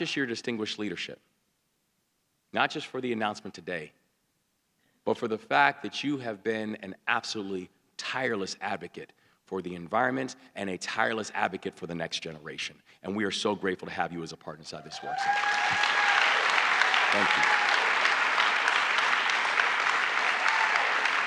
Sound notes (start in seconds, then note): 15.0 applause